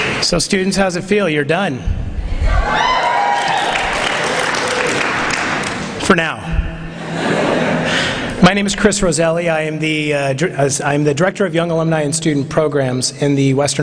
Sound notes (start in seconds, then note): 2.4 cheering